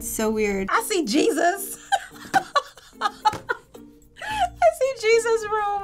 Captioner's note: laughing